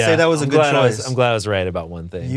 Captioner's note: laughs